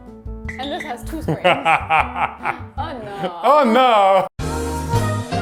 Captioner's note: laughs; meme music